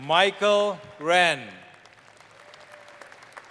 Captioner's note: applause